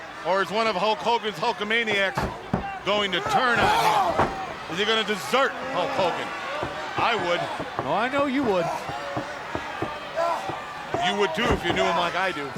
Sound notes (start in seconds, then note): 2.6 wrestler screaming; 8.8 wrestler grunting